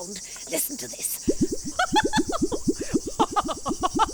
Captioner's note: laughing